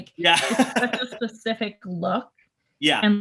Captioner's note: laughing